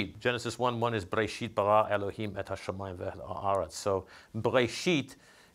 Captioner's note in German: spricht Hebräisch